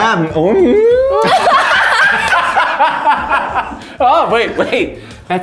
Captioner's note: all laughing